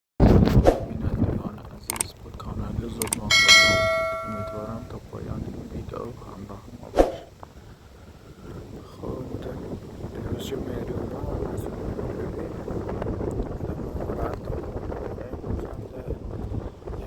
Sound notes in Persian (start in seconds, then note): 3.0 صدای زنگ